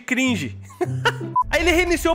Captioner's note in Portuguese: risos